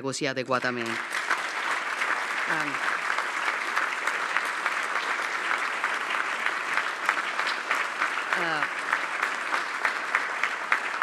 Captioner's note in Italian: Applauso